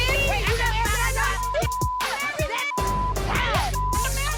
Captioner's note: people shouting indistinct